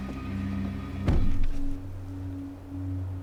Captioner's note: sound of car door closing